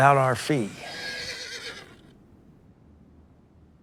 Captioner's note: horse neighs